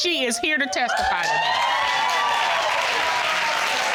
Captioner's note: audience cheering